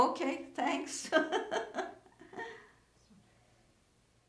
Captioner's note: laughing